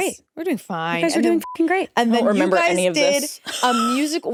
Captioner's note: beep